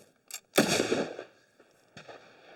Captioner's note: gun shot